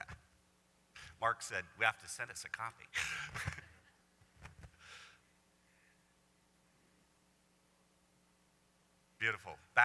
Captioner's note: laughs